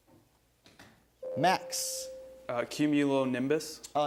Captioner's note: ding